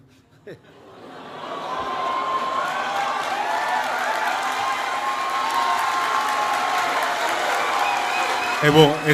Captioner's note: applause